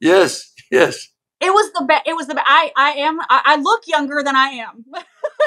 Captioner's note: laugh